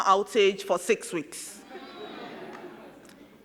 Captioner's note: crowd laughing